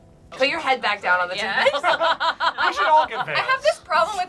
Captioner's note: laughs